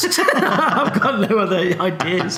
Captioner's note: laughing